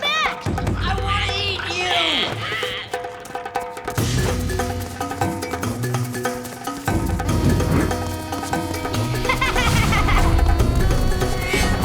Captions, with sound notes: I want to eat you! [laughing]